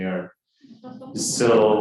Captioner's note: audience chuckling